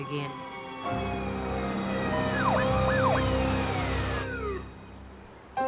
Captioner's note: sirens wailing